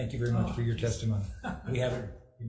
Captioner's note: laughing